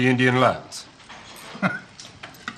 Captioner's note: dinner guest chuckles